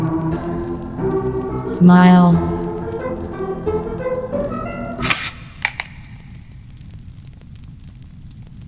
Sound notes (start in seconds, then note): 5.0 camera shutter; 5.0 cracking sound